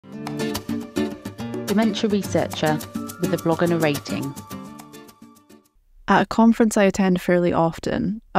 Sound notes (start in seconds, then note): 0.0 smooth music; 1.8 voiceover